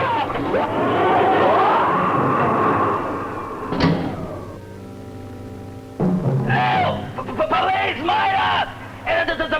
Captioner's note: roaring; screaming